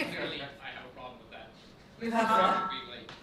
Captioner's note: laughs; microphone feedback